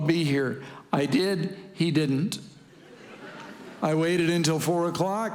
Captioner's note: congregation laughing